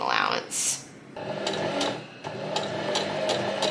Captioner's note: sewing machine surges